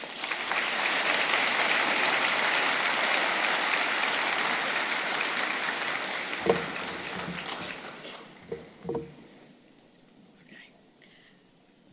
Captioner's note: applause